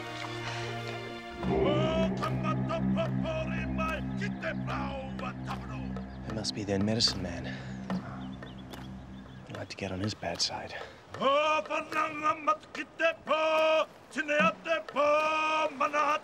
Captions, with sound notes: [NON-ENGLISH SPEECH]. He must be their medicine man. Ah. - Don't want to get. - On his bad side. [NON-ENGLISH SPEECH].